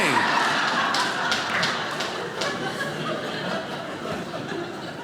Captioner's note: audience laughing